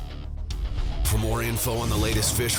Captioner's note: voiceover